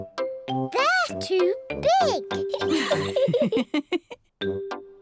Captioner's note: laughs